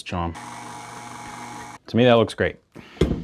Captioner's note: mixer whirls